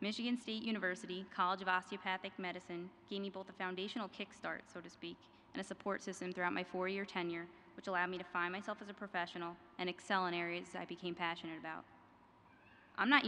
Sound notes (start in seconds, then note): none